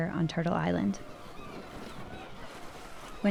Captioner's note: seagulls crying